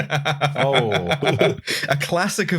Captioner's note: laughs